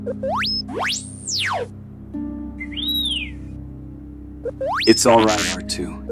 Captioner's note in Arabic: r2-d2 يصدر صوت صفير